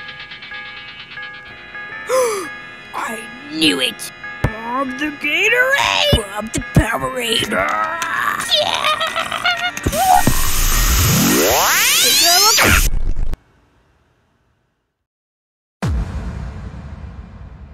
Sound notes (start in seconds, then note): 2.1 gasp; 7.4 aggressively unscrewing cap accompanied by war cries